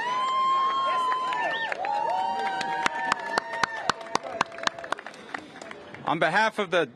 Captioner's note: cheers and applause